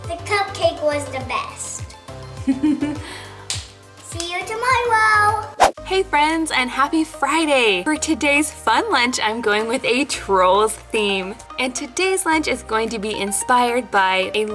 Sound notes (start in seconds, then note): 2.5 laughs